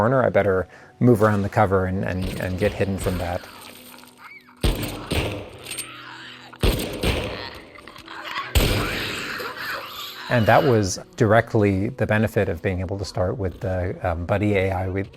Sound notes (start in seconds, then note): 4.7 gun firing; 4.7 zombie squeaking